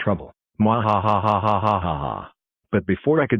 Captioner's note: cackles maliciously